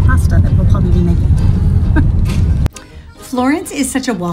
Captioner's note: laughs